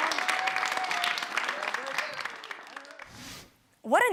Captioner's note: audience applauds